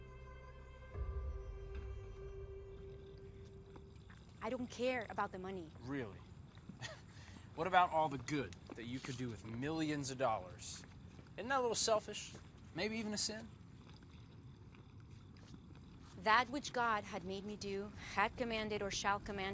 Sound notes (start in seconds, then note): 6.7 laughs